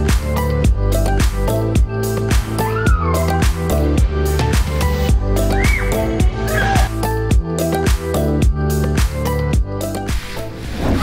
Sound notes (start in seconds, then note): 2.6 children screaming